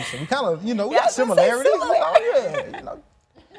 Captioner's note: laughs